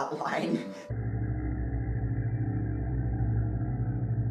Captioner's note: unsettling low hum